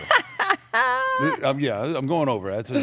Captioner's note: laughs